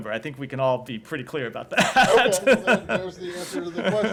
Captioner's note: laughter